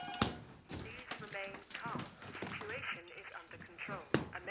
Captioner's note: intercom